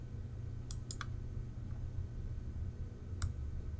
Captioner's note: mouse click